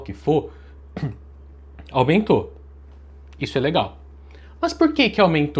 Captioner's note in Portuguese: limpando a garganta